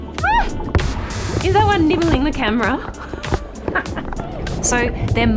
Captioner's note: laughs